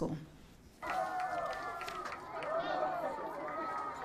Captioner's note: cheering